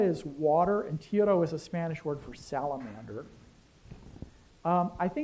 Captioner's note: spanish